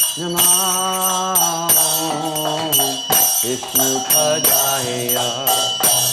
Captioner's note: bells chiming; chanting